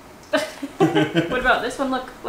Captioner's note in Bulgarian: Смее